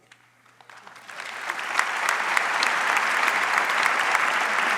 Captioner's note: audience applauds